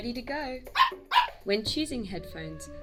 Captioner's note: Patch barks